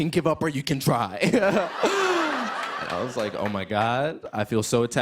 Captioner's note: chuckles